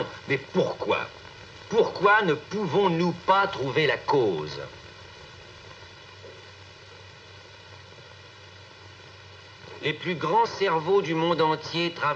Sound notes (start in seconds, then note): 4.8 silence